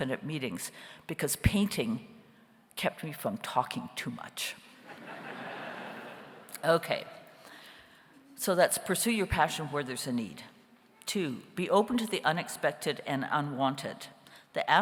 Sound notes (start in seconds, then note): 4.9 audience laughs